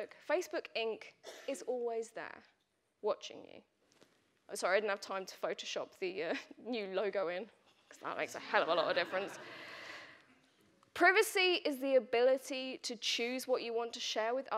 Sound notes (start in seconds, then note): 8.6 audience laughing